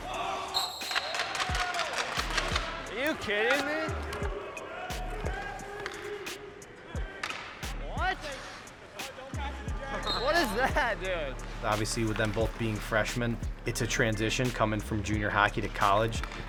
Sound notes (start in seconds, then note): 0.3 referee whistle blows; 9.6 players indistinctly chatting